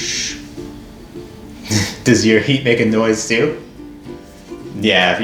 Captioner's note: laugh